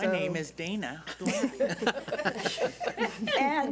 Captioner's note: laughing